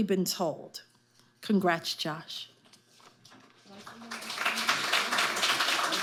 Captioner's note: audience applauding